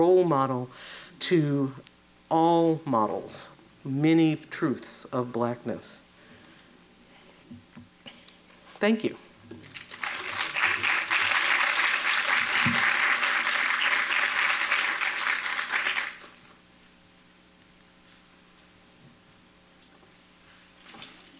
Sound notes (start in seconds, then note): 12.1 applause